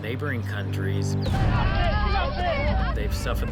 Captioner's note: people yelling